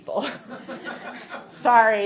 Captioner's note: audience laughing